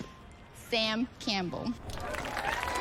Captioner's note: cheering